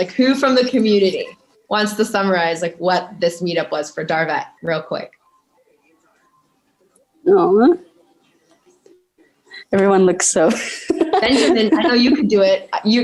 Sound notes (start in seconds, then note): 10.6 chuckling